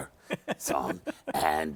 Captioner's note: laughs